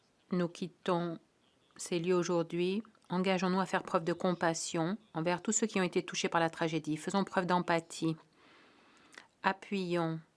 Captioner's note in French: voix de l'interprète